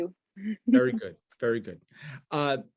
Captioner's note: laughs